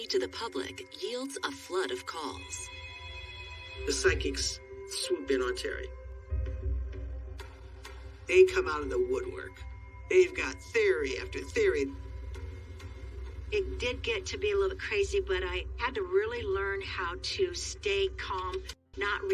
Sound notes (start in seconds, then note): 2.2 phone ringing